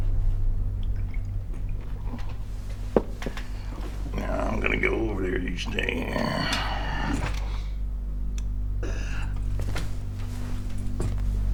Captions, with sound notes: Now, I'm gonna go over there, you stay here. (burps)